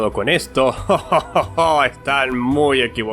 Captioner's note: laughter